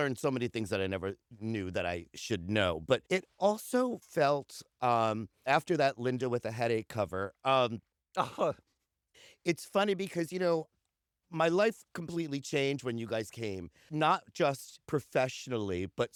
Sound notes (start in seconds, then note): 8.2 laughter